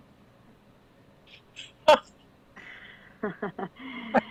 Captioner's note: group laughing